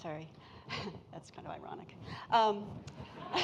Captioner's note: laughs